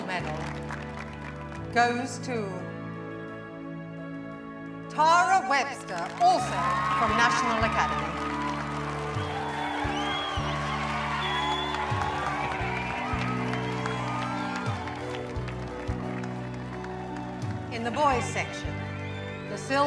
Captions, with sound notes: And the gold medal goes to... Tara Webster, also from National Academy. [cheering and applause] In the Boys section,